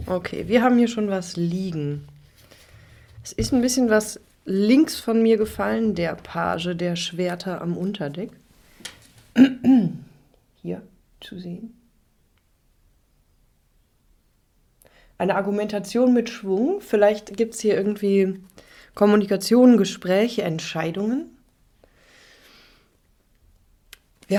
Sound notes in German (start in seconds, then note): 9.3 räuspern